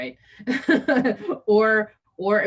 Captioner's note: laughing